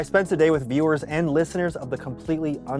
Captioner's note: none